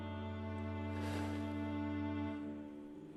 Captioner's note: blows out candle